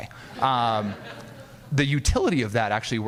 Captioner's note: audience laughing